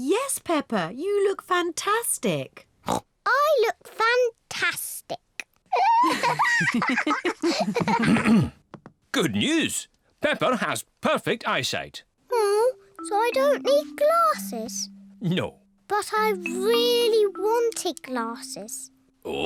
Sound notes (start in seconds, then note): 3.5 snorts; 5.7 both laugh